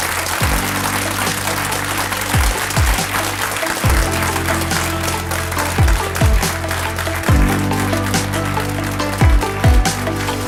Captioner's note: applause; standing applause